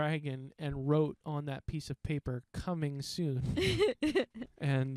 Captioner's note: laughing